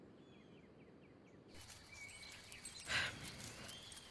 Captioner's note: brush crunching; birds twittering; dog tags jingling; Amy panting